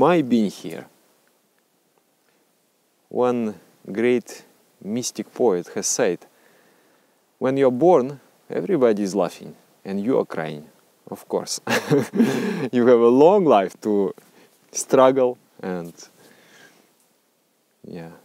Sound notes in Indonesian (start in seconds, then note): 11.6 tertawa